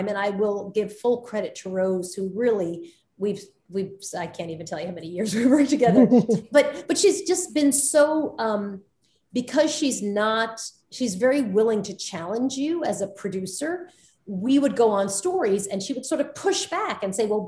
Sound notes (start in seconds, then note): 5.8 Soledad and Rose laughing